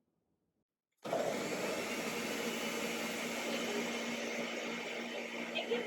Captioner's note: blender noise